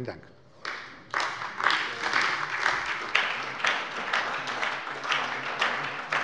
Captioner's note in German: Beifall bei der SPD